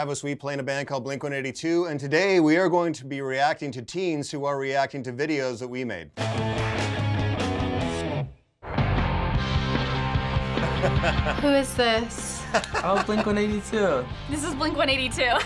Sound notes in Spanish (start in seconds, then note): 6.2 introducción punk rock; 8.4 risas